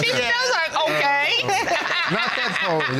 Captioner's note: laughs boisterously